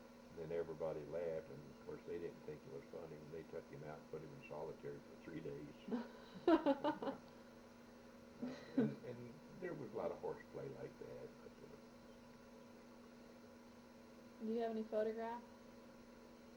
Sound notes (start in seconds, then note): 5.8 both laugh